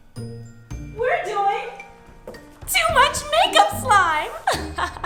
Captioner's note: laughing